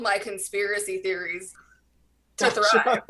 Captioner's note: giggles